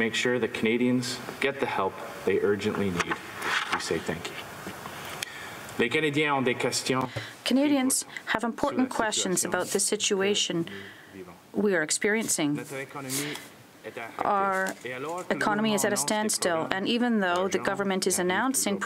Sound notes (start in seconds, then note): 9.7 speaking french